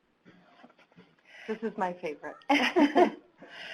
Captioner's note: laughs